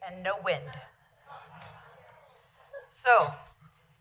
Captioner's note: laughter